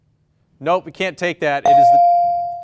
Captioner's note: bell rings